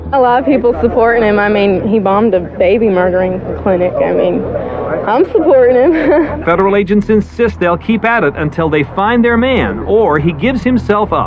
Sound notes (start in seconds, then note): 5.8 chucucklkles